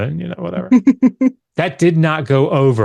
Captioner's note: chuckles